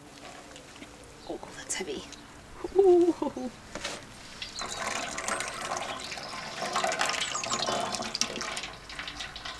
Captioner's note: dripping